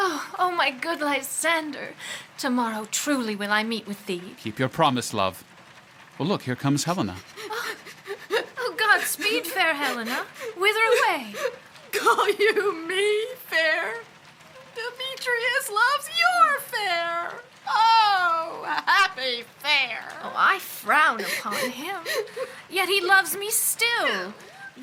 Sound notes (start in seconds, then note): 7.3 sound of crying